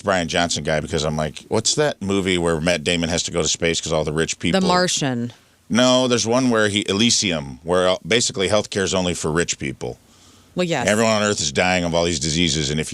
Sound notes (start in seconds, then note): none